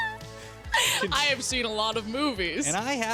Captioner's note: laughing